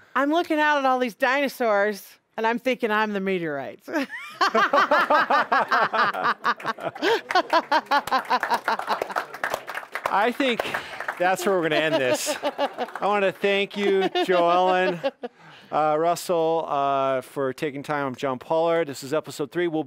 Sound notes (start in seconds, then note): 4.0 laughing; 6.3 audience applauding